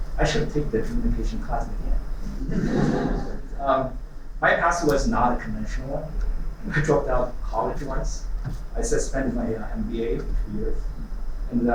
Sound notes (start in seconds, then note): 2.4 laughter